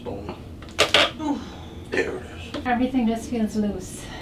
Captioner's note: grunt